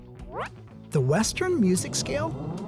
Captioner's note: animation whooshing